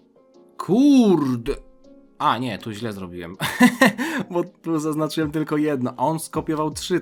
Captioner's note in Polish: śmiech